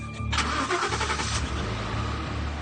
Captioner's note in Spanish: Sonido al arrancar el motor